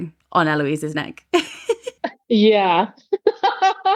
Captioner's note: laughing; laughs